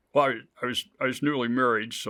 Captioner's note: none